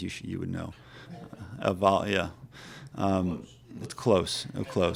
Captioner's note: reporters respond